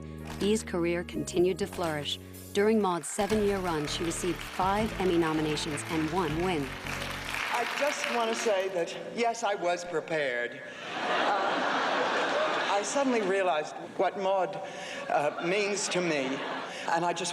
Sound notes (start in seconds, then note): 10.8 laughs